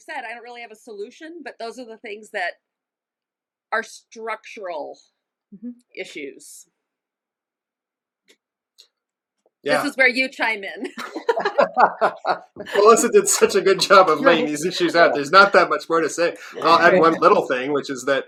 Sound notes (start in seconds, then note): 6.5 pause, laughter; 10.9 laughter